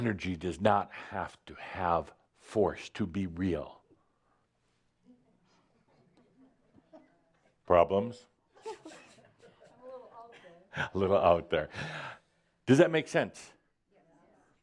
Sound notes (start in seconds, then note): 8.0 a few giggles